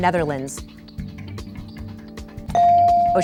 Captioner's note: bell dinging